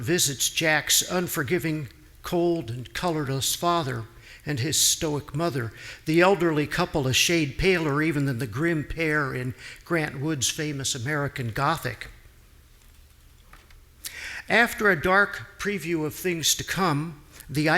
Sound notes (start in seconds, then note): none